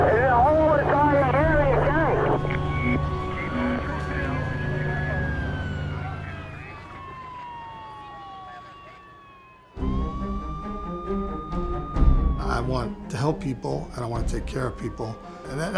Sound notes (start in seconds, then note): 3.2 sirens wailing